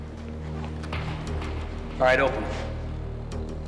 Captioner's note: elevator bell dings